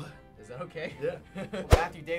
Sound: chuckles

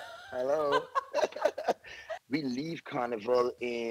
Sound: laughs

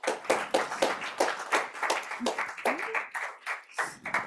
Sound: audience applauding

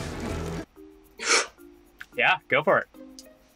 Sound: Joel gasps

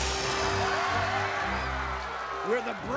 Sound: cheering

